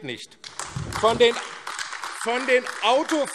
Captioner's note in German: Beifall AfD